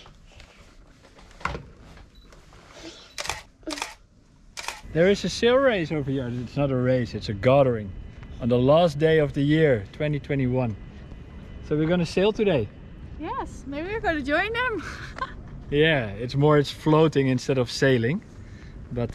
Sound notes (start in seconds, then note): 15.3 laughs